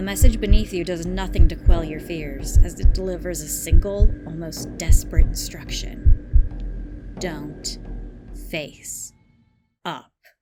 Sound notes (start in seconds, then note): 0.0 heartbeat sound effect